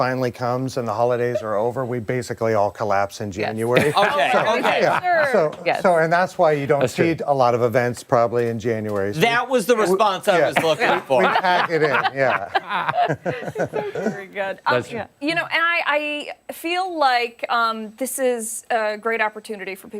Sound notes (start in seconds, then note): 10.5 laughter